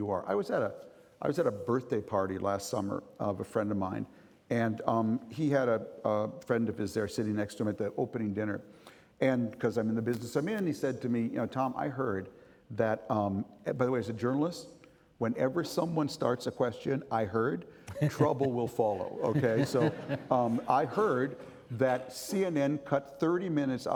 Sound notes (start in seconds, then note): 17.8 chuckling